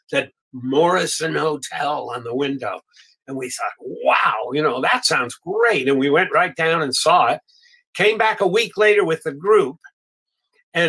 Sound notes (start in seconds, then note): none